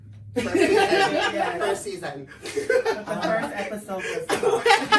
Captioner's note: laughs